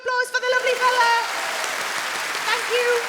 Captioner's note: audience claps